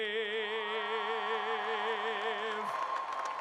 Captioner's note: applause